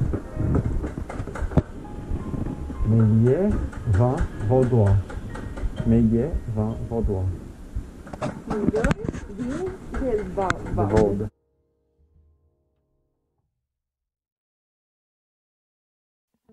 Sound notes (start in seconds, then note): 2.7 reads in French